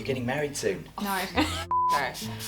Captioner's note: beep